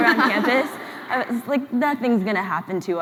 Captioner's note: laughs